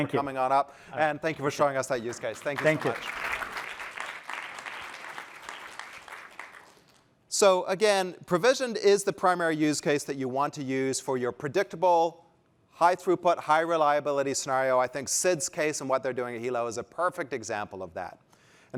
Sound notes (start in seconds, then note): 5.1 applause